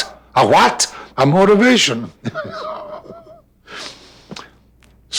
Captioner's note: laughing